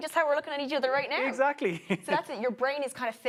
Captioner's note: chuckles